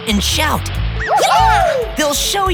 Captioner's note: cheering